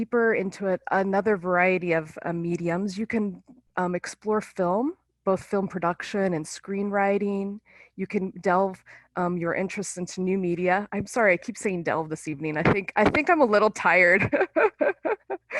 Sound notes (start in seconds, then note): 14.2 laughing